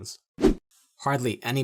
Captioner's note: air whooshing